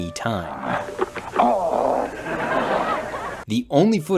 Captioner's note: audience laughing; Harry groaning